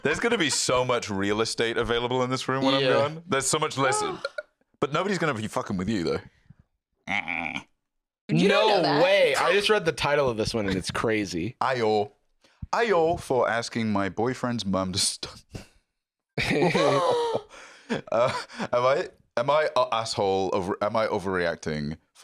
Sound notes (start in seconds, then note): 7.0 aggressive witch noise; 16.4 laughs; 17.4 gasps